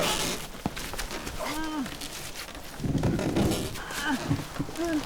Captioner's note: straining